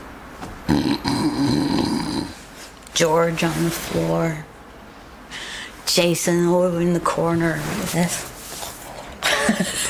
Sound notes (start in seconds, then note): 0.7 snores